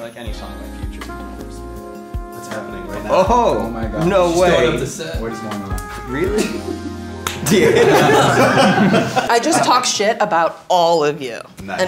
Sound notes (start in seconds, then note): 0.3 sensual music; 7.3 group laughing